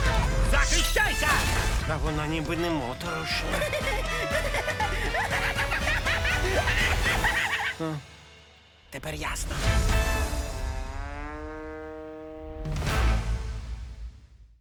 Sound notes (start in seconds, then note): 3.1 laughing maniacally; 9.9 sad trombone plays